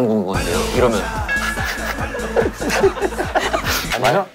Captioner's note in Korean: 실소